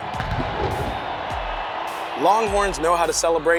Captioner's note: crowd cheering